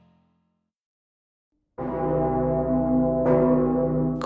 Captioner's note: bells Ringing